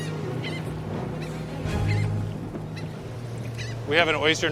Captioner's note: gulls squawking